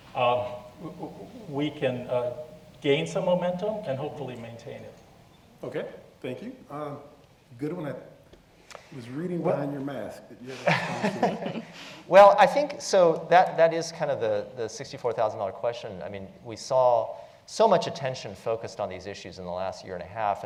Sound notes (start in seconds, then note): 10.4 laugh